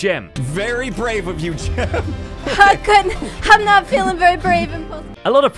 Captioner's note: laughs